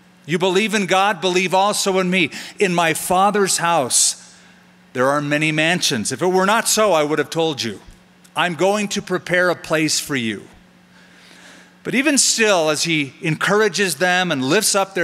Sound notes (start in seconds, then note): none